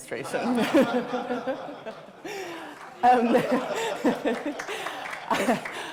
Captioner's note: audience laughing; laughing